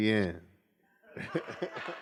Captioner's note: laughs; laughter